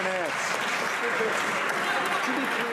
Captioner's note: some Applause